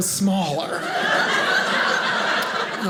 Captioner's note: audience laughing